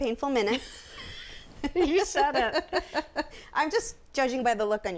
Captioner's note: laughing; laughs